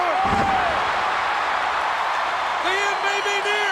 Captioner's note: audience cheers